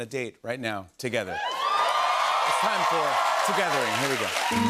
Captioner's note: cheers and applause